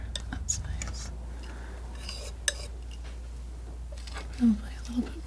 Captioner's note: tapping